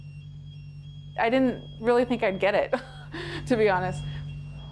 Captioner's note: chuckling